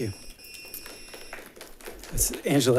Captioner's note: attendants applauding